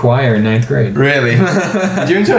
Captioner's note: laughs